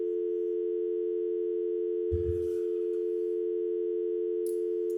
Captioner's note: phone dial tone